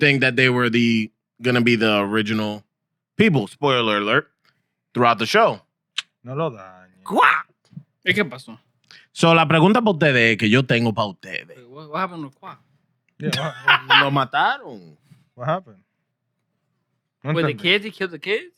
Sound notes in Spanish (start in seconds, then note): 7.5 Hablando en idioma extranjero